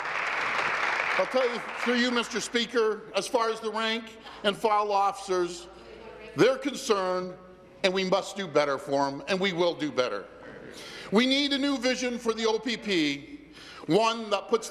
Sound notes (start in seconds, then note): 2.2 applause